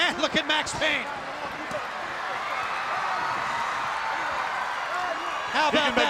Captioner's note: crowd cheering